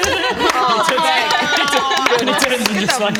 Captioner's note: happy applause